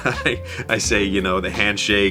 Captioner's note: person laughing